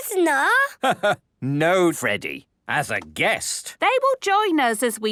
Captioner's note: laugh